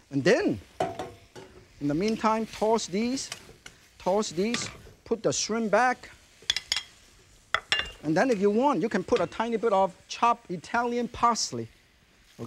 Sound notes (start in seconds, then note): 0.8 pot clinks; 4.1 wok clinking; 7.5 plate clinks